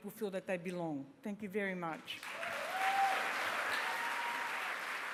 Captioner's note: cheering, applause